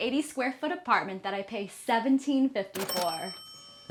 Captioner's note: cash register dinging